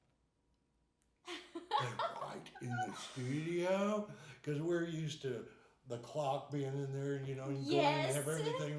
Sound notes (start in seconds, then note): 1.3 laughing